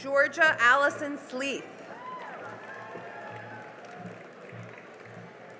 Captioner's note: cheering and applause